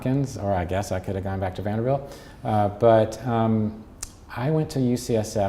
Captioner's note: smacks lips